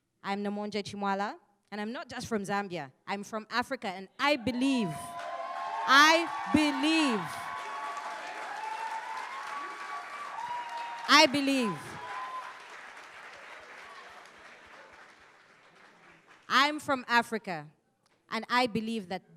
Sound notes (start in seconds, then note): 5.0 audience cheering; 7.6 audience cheering